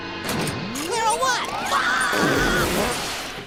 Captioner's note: fart sound